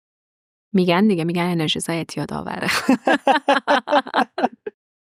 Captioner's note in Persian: خنده